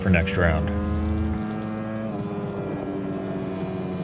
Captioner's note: engine roaring